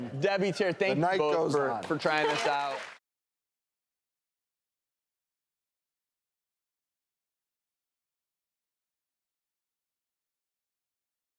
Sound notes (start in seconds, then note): 4.6 clapping